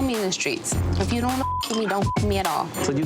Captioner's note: beep